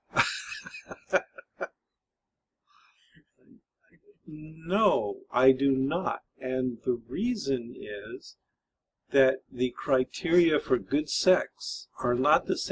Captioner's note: laughs